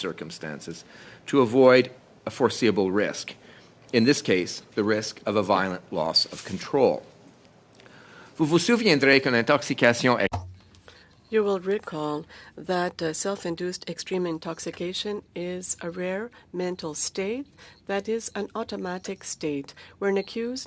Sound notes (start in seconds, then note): 12.5 speaking French